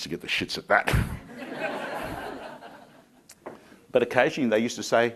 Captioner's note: crowd laughing